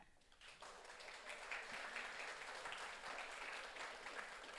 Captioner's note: audience applauds